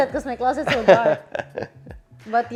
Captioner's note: laughs